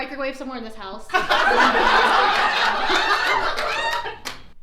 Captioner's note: audience laughs